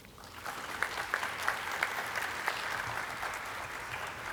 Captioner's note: audience clapping